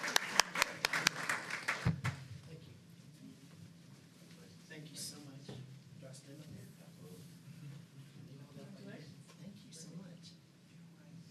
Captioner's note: applause